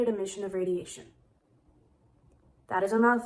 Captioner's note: confused silence